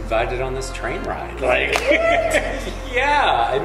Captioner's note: laughing